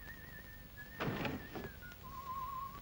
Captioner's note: whistles; desk clatters shut; whistles